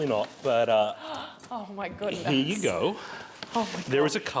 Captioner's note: inhale